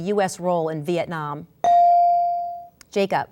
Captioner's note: ding